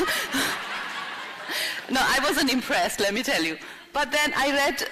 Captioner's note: laughter